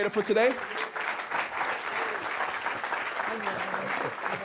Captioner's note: audience clapping